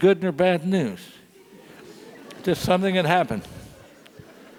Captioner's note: laugh